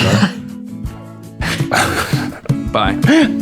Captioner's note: laughter